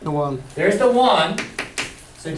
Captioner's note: voiceover